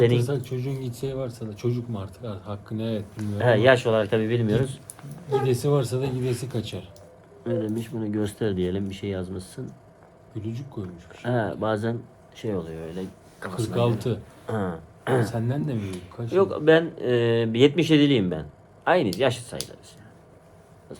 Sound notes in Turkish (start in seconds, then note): 15.0 öksürme; 15.0 boğazını temizler